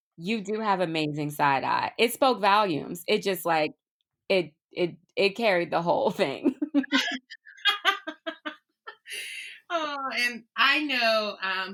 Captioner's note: laughter